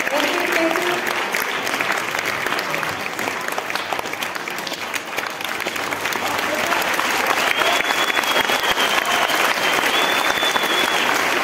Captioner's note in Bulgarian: аплодисменти